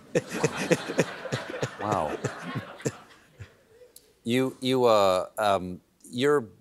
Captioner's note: laughs